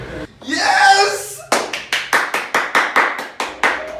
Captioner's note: intense clapping